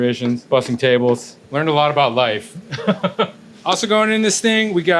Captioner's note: laughs